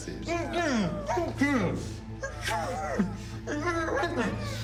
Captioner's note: victims groaning